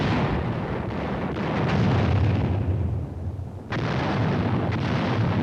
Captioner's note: explosions